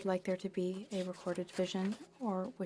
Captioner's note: speaking French